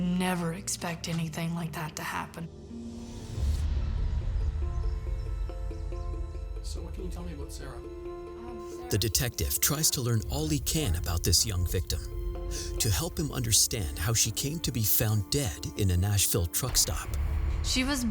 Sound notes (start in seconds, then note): 4.3 suspenseful music; 4.3 birds chirping